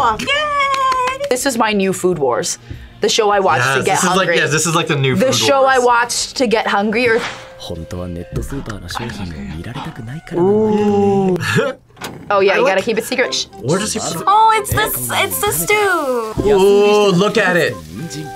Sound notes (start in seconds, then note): 9.6 gasps; 11.2 laughs